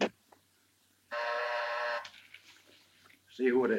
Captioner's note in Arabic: طنين الباب